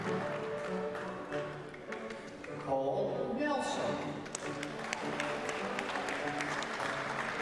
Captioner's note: applause